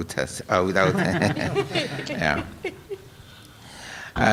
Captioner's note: laughter